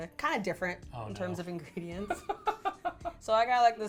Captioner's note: laughing